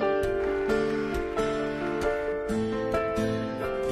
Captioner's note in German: Klatschen